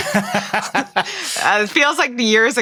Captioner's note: host laughs